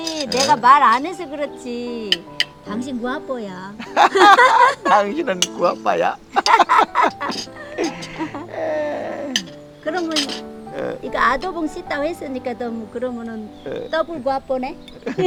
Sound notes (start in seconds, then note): 3.8 both laughing; 6.3 both laughing